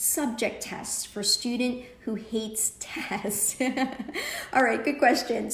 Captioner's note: laughs